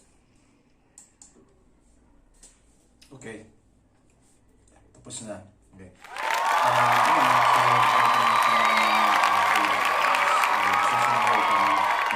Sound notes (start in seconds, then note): 6.0 applause